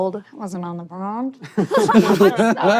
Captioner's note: laughter; laughs